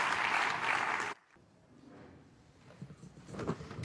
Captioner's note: applause